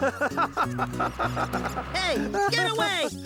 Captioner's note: laughing